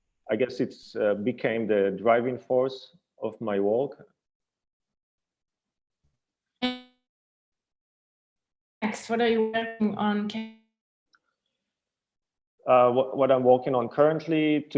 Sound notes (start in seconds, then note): 6.6 electronic warbling